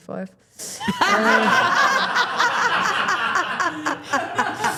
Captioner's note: everyone laughing